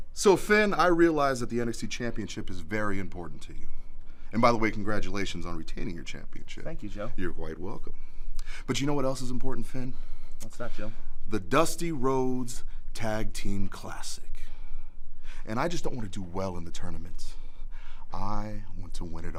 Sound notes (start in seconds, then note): none